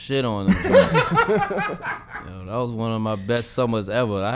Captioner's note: hosts laughing